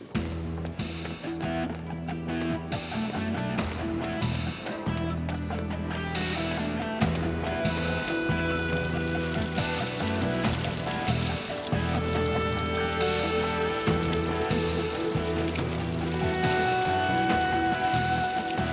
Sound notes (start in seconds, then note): 0.3 footsteps thudding; 0.3 suspenseful music; 9.3 fountain splashing